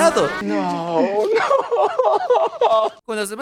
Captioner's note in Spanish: Llora desconsoladamente